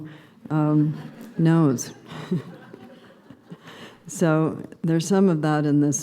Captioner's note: subdued laughter